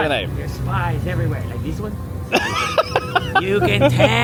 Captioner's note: laughing